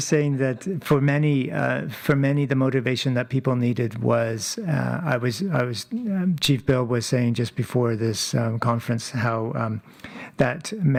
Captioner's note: speaking French